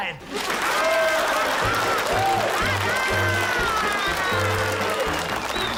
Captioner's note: cheering and applause